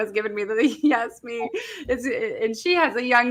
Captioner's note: laughing